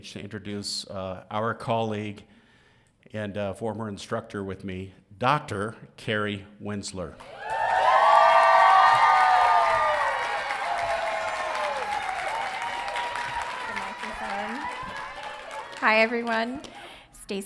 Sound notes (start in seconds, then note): 7.3 audience cheering